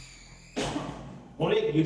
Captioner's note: door sound